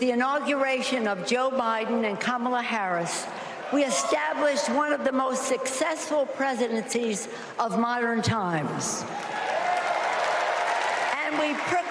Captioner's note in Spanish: Aplausos